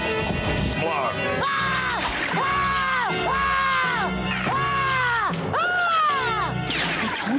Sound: screaming

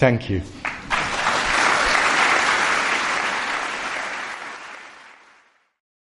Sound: applause

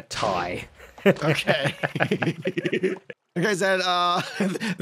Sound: laughs

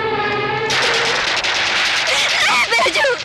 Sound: gunfire

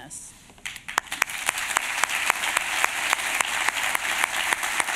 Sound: applause

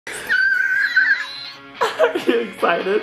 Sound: squealing happily

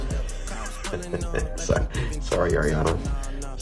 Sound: laughing

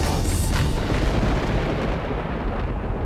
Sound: storm rumbling

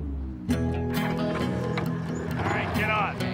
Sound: bike engine starts

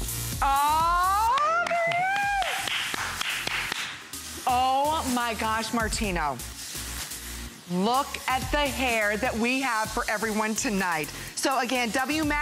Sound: applause

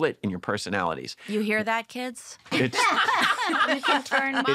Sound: laughter

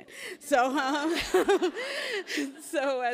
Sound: laughs

